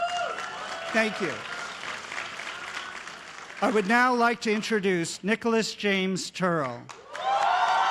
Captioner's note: cheers and applause